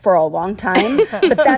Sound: laughter

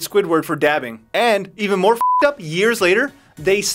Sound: beep

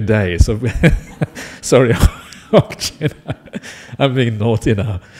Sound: laughs

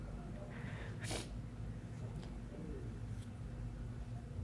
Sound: sniffling

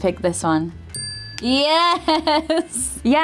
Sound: bell dinging

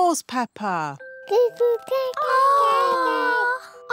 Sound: babies gurgle

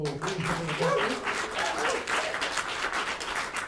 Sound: applause

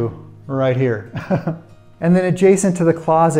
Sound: chuckles

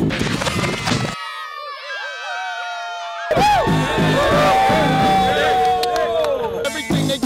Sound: cheers

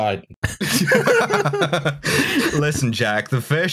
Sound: laughter

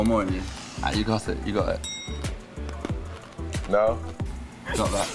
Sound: bell dings

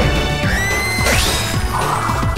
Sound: screaming

